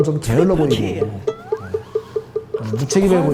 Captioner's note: sigh